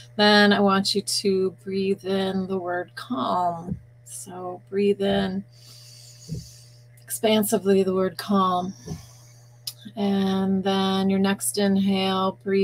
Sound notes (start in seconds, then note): 5.5 breathing in; 8.7 breathing out